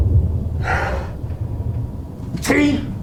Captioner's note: Janus sighs